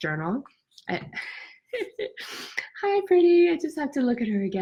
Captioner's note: laughs